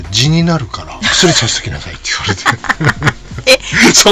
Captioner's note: laughs